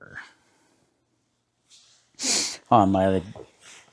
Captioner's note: sniffs